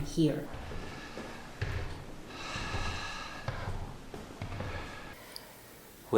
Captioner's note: footsteps tapping; heavy breathing